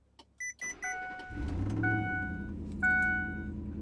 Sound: engine starts

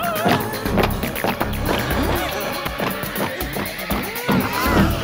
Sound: shouting

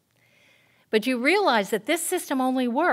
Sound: none

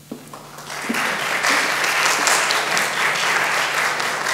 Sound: audience applauds

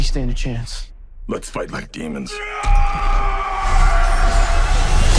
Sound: yells

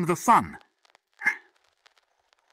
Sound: sharp Inhalation

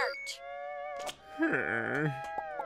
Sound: groaning

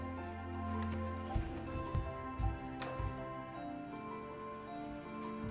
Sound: footsteps thumping

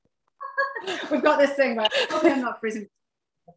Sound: laughter

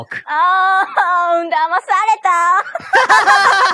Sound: laughs

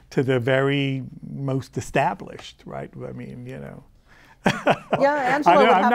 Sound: laughs

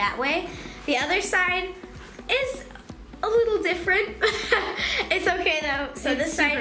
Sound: laughing

